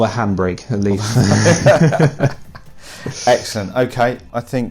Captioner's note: laughing